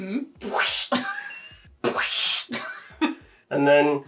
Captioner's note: imitating squishing